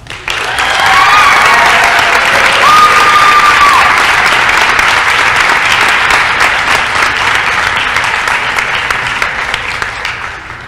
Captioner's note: applause & cheering